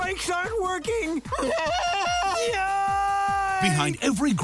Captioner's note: screams